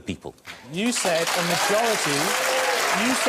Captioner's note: audience applauding